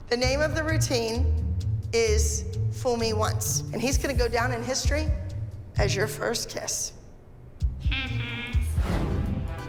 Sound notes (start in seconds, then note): 8.4 girl mocks